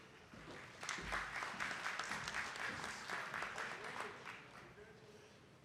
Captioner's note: attendees clapping